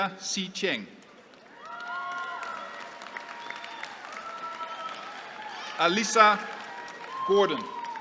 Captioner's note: applause